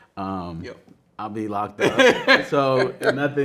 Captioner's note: man laughing